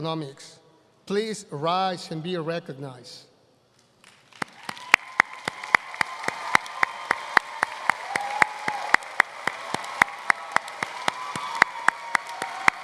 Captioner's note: applause